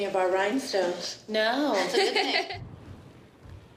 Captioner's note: laughs